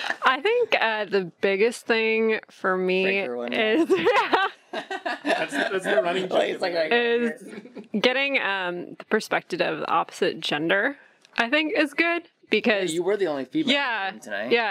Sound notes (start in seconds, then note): 3.8 laughter